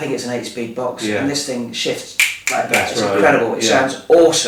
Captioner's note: snapping fingers